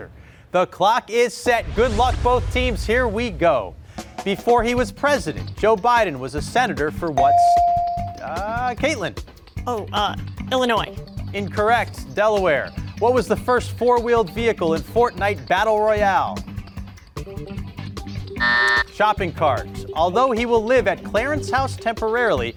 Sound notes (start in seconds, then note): 4.4 upbeat ambient music; 7.2 bell rings; 18.4 buzzer ringing